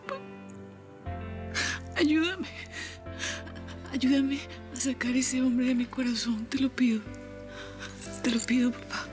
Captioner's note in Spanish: Solloza